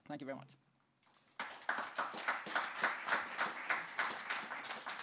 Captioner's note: audience applauding